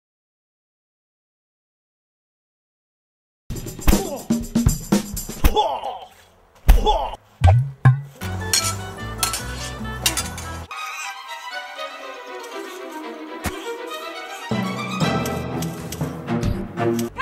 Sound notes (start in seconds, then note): 3.7 washboard impacts; 8.2 sword clashing; 10.6 tense fast-paced music